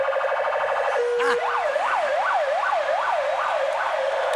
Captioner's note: sirens wailing